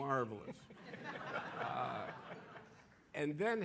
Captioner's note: audience laughing